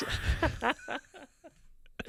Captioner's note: laughing